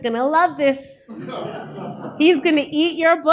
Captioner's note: audience laughter